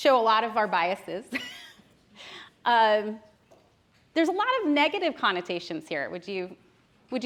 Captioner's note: chuckles